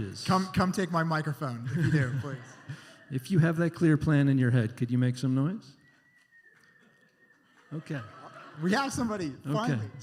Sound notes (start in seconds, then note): 1.6 laughter; 5.9 one faint whistle